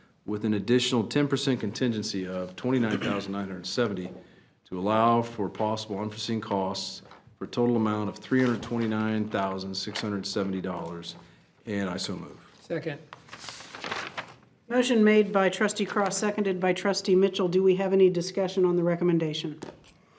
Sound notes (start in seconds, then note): 13.1 paper crackling